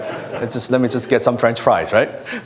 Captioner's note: laughter